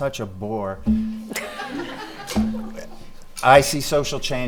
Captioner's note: laughing